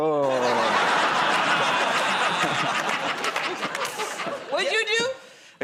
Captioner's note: laughter